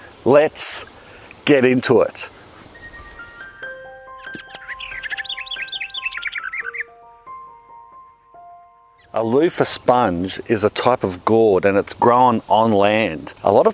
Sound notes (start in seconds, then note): 2.3 birds tweeting; 2.9 gentle music